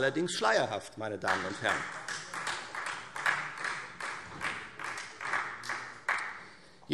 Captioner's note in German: Beifall Freie Demokraten